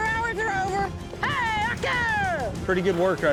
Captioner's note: shouting